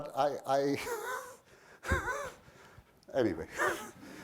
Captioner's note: laughs